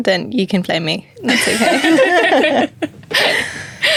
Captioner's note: laughing